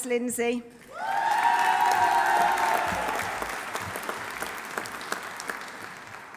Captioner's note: audience cheering; audience applauding